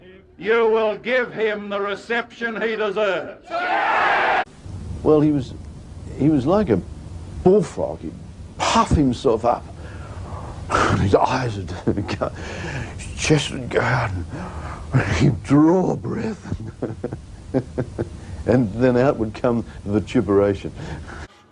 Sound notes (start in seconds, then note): 9.2 huffs and puffs; 11.7 chuckles; 12.7 huffs; 14.9 huffs and puffs